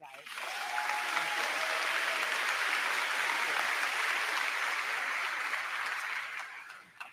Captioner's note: crowd clapping; crowd cheering